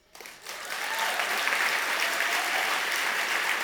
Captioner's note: audience applause